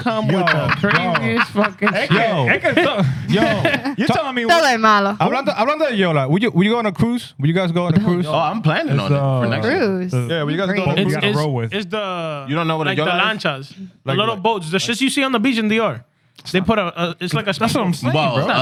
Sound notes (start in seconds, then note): 3.3 laughing